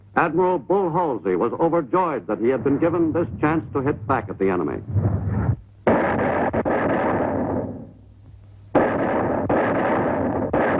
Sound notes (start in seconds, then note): 5.8 artillery firing